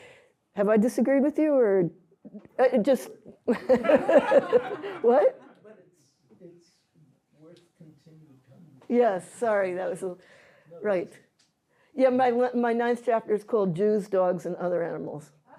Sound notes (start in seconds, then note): 3.4 laughter